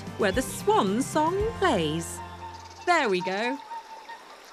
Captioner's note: swan vocalising